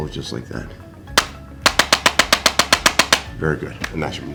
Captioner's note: instrument clicking